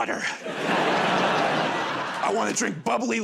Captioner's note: laughter